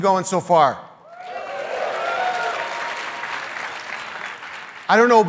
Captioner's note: crowd cheering